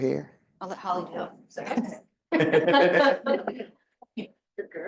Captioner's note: audience laughing